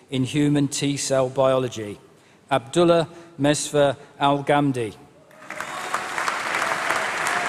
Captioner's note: applause